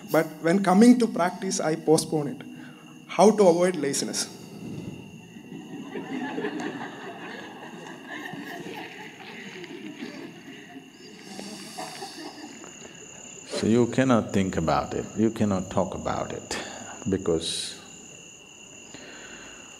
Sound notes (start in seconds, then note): 7.9 laughter